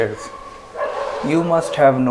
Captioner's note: laughing